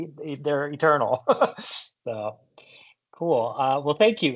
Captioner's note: chuckles